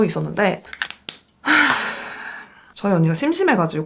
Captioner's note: deep sigh